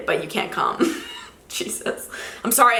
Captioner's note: laughs